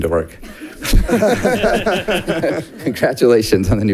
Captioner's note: audience laughing